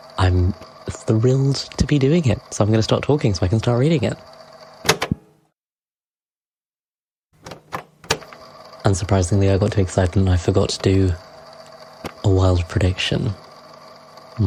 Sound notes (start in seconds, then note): 7.4 tape recorder clicks on; 7.5 tape recorder clicks off